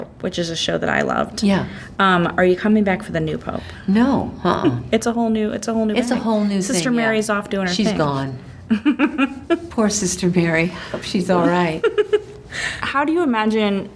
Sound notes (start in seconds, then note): 8.6 laughs